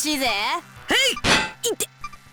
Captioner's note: smack